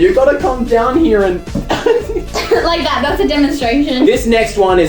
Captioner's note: both crack up